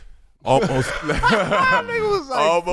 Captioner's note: laughing